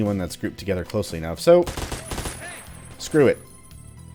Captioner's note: fully-auto fire, everyone alerted